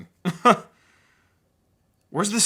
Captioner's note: laughs